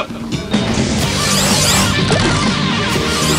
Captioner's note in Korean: 뿌슝